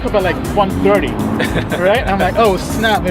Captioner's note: laughter